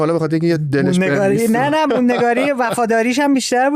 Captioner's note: laughs